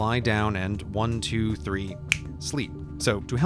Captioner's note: fingers snap